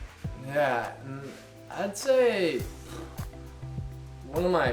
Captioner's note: blows raspberry